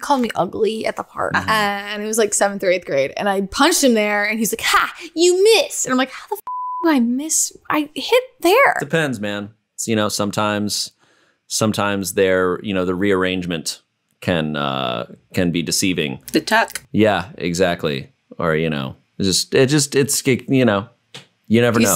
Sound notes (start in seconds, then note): 6.4 beep